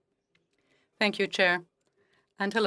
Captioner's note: speaking French